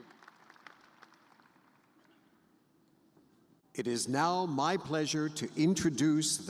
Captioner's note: applause